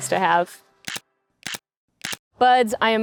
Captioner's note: shutter clicking